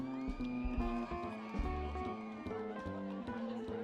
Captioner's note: people cheering